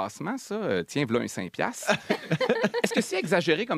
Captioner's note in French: rires